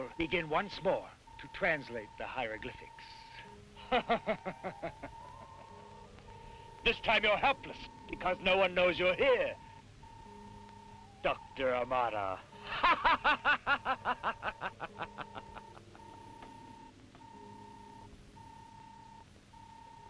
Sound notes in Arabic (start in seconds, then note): 3.8 كروب يضحك; 12.6 يضحك; 17.2 صوت الروبوت